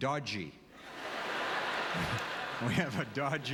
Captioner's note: audience laughter